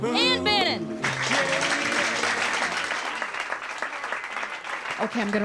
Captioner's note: applause